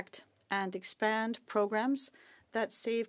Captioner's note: speaking French